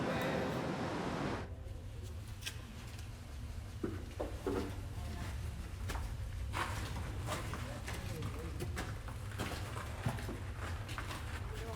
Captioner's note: footsteps